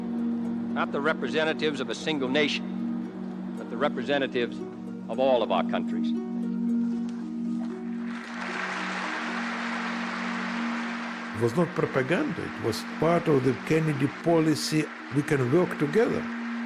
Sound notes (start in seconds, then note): 8.2 applauding